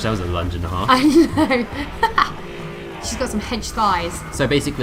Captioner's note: laughter